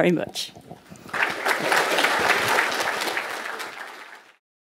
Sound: applause

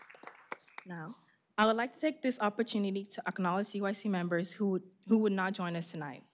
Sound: applause

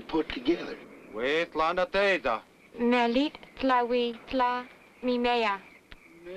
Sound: speaking in foreign language

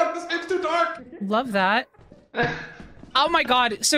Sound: laughs

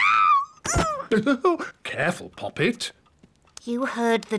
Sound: shrieks; laughs

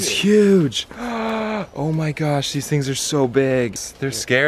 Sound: gasps

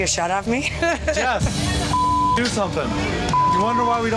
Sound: laughs; beep

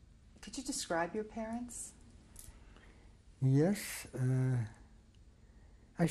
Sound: none

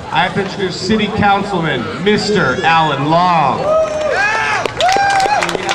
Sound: audience clapping

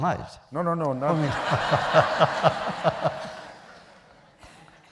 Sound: laughter

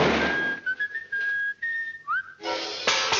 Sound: whistling

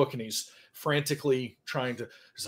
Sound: none

